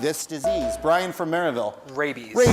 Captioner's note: bell rings